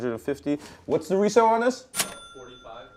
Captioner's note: ka-ching